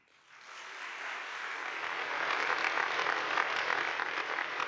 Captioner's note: audience applauding